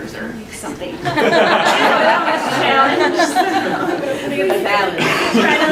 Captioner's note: laughter